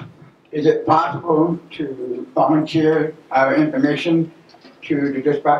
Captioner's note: voiceover